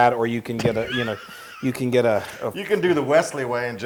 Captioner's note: laugh